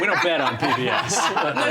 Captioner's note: laughter